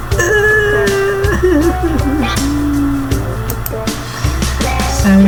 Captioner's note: crying.AIFF